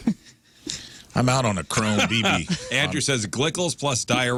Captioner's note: laughing